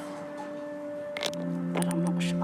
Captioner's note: creaking